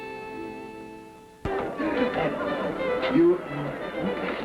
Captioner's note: upbeat folk music; people chatting